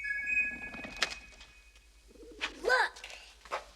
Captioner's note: whistle chiming